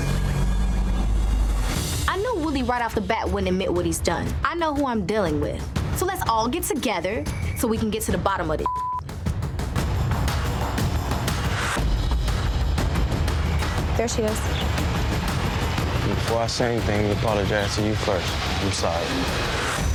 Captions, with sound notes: I knew Will right off the bat wouldn't admit what he's done. I know who I'm dealing with, so let's all get together so we can get to the bottom of this (beep). (tense music continues) There she is. Before I say anything, I'm gonna apologize to you first. I'm sorry.